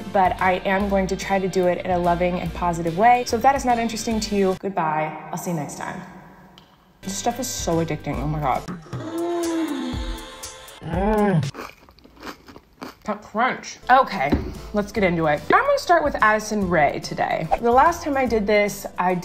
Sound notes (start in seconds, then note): 11.5 cereal crunches